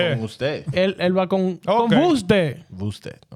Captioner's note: speaking In Foreign Language